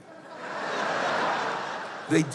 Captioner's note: laughter